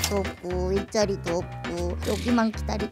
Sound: scratching

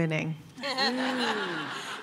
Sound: laughter

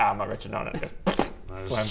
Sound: pffppbt

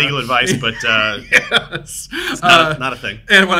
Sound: laughs

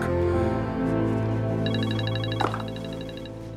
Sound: cell phone rings

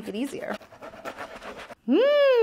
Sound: scratching

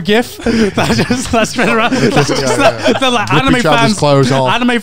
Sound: group chattering

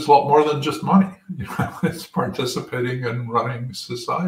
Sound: laugh

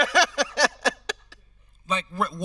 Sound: host laughing

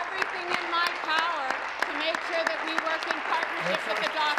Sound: applause

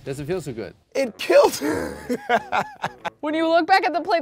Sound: laughs

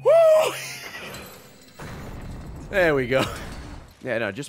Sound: laughs

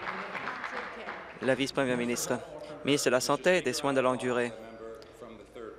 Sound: applause

